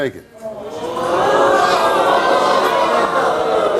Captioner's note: audience oohing